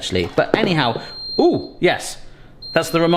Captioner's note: beeping